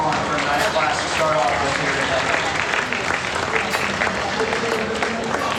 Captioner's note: applause